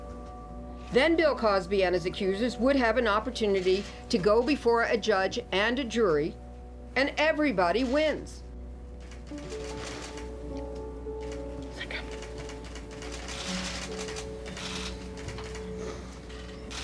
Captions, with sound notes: Then Bill Cosby and his accusers would have an opportunity to go before a judge and a jury, and everybody wins. (cameras click) - Thank you.